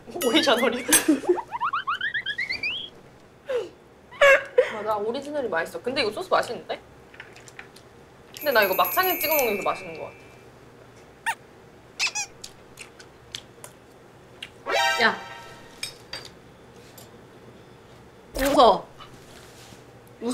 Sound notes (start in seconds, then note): 0.4 giggle